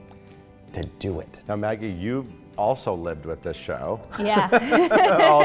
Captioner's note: laughing